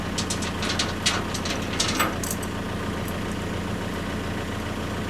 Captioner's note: chain rattling